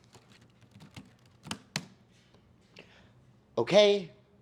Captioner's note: keyboard clicking